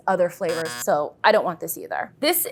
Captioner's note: buzzer sounds